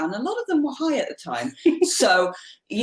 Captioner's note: laughs